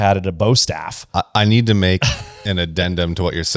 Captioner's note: laughs